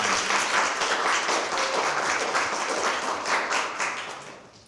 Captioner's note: applause